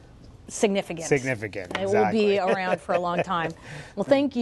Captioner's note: laughs